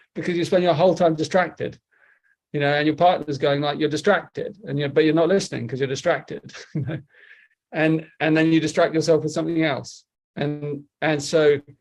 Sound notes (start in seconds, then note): 6.5 chuckles